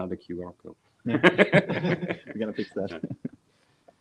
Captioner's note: laughing